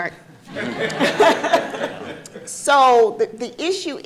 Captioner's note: audience laughing